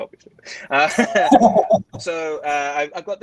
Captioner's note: laughing